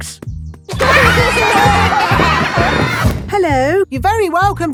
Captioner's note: laughter